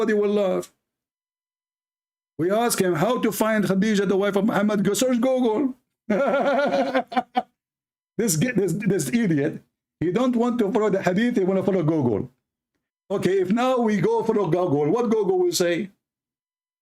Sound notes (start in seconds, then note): 6.1 Ketawa